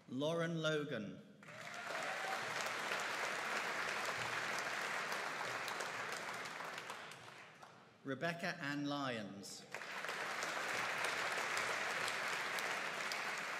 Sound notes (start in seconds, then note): 1.4 audience applauding; 9.7 audience applauding